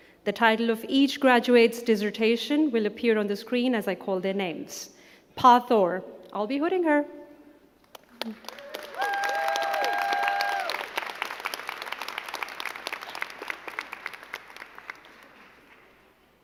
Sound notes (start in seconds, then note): 8.1 crowd cheering and clapping